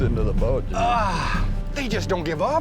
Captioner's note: grunts